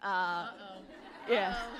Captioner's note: laughter and applause